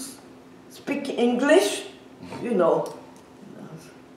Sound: laughs

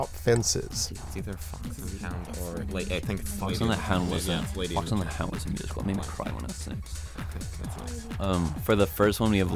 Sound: wispering

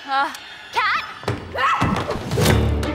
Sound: Kat screams

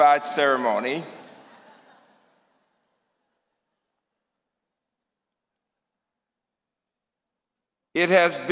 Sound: laughter

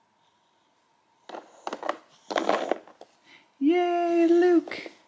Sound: toys hitting

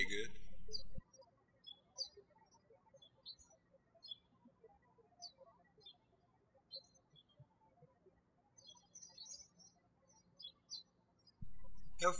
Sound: birds chirping

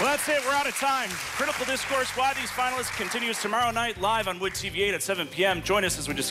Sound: applause

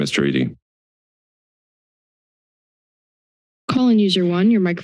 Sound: silence

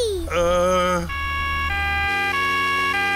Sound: siren wailing

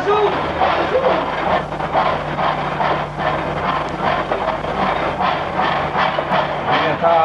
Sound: sound - the train starts moving

